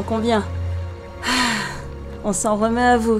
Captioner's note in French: soupire